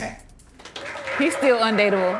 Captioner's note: audience cheers